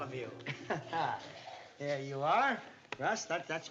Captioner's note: laughs